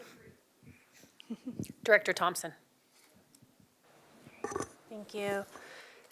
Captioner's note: laughter